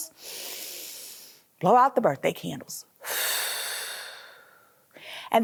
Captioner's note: inhaling; exhaling